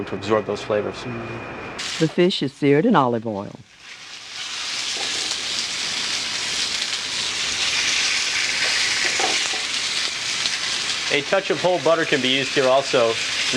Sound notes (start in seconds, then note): 2.5 voiceover; 3.6 pan sizzling